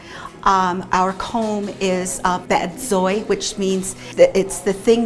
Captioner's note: speaking navajo